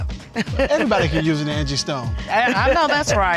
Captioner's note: chuckles